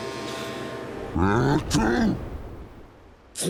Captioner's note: sniffs; sneezes